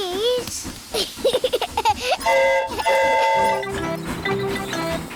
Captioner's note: giggles; train horn toots